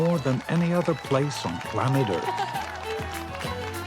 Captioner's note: all cheering